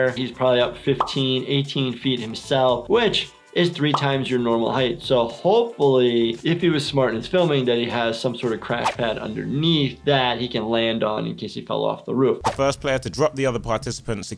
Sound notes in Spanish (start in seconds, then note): none